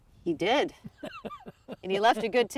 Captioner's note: laughing